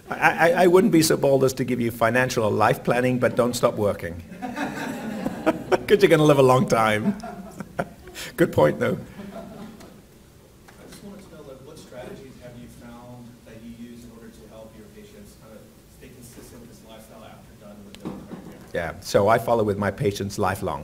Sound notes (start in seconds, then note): 4.3 laughs